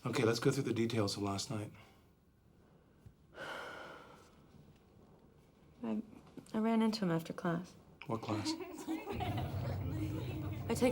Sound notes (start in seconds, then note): 2.8 sighs; 8.4 laughter